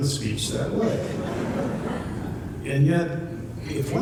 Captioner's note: laughter